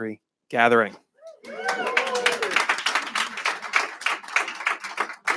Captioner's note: applause